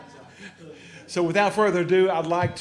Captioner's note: laughter